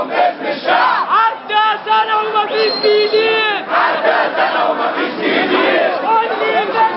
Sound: chants

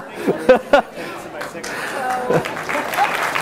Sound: laughter; applause

